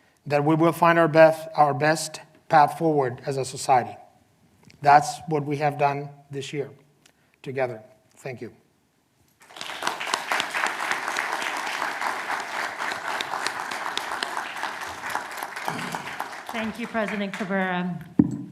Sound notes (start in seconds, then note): 9.9 clapping